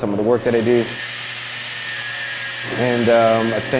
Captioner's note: tool buzzing